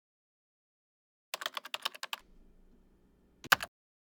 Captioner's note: keyboard clacking